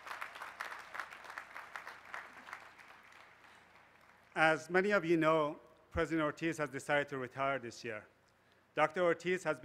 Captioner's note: applause